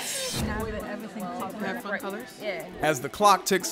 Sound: group chattering

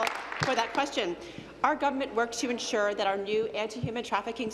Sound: applause

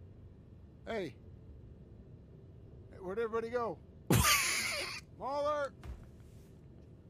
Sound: laughs

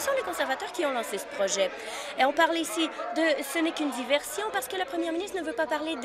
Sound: applause

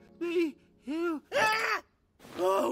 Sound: scream

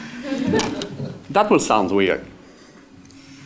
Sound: laugh

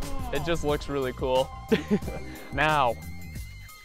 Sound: laughs

